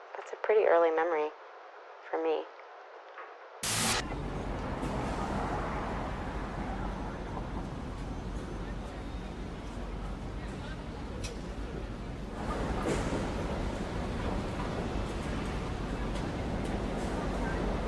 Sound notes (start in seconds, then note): 3.6 static hissing; 3.6 traffic whooshing; 8.8 passersby chattering indistinctly